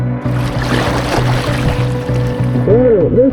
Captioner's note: water trickling